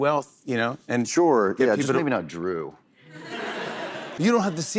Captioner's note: laughter